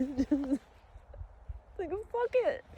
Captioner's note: sobs through words